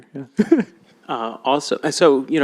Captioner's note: laughs